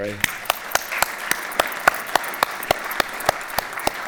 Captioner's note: applause